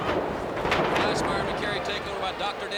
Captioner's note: crowd chatter